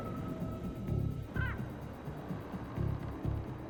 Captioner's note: bird calling